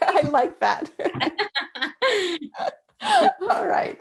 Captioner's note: laughter